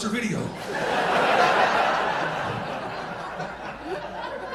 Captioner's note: audience laughing